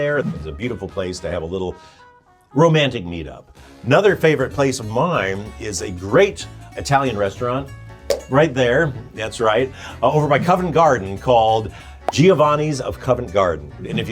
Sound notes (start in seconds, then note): 8.1 pointer stick thumps; 12.1 graphic pops